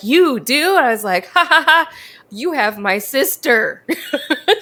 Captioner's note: laughs